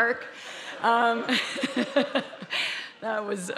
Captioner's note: laughing